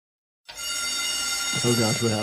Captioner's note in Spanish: suena la alarma